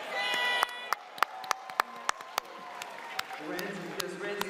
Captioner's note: applause